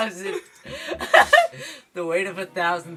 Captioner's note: the goblin jeers